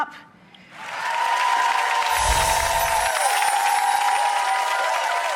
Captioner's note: audience cheering